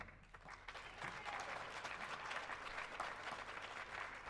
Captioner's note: audience applauding